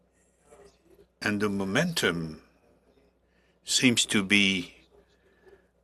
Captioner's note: speaking French